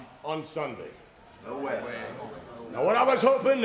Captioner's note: group chattering